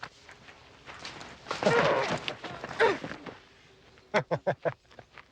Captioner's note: Huck groaning; Nick laughing